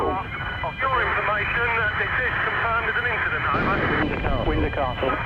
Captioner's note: radio buzzing